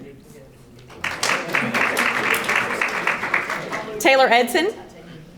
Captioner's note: audience applauding